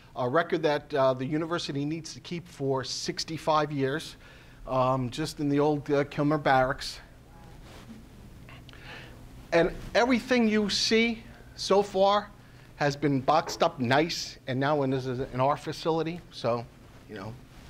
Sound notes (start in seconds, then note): none